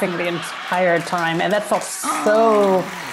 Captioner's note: applause